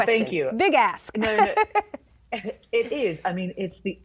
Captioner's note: laughing